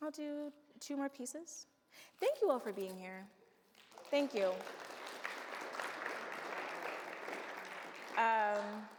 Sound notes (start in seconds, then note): 5.3 audience applauds